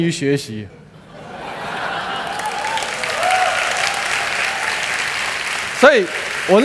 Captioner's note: applause